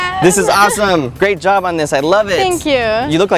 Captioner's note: laugh